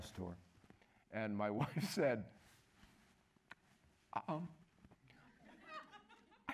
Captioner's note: whispering